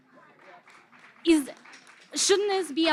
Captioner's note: audience claps